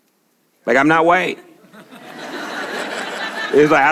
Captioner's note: congregation laughs